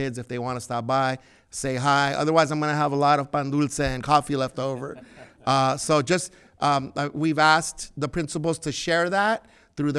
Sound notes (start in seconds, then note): 4.5 laughs